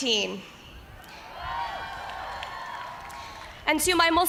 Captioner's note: cheers